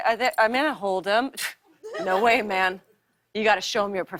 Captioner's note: scoffs